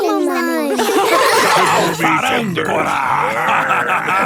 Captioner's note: laugh; menacing voice; growls